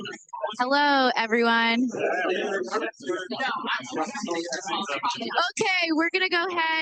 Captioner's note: participants chattering